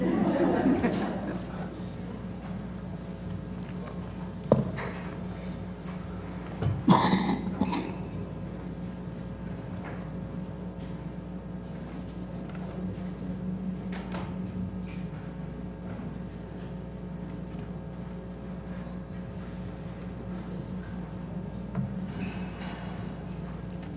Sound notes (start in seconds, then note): 0.0 laugh; 2.9 cough